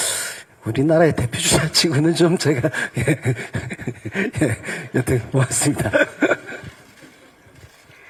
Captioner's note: laughs